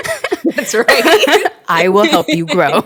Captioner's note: both laugh